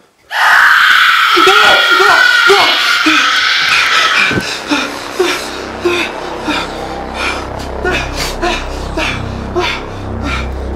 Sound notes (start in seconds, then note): 0.2 ghostly shriek; 2.2 screams and pants